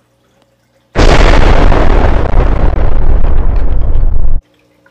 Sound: explodes

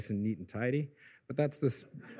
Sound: laughter

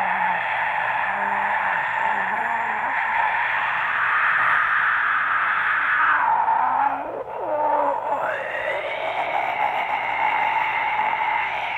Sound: sigh continues; sigh continues

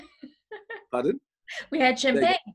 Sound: laughing

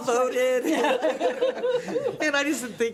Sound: everybody laughs

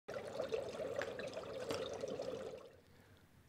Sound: liquids bubbling

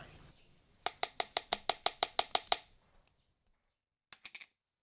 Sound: cup clacks

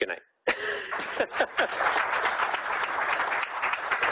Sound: laughing; audience applauding

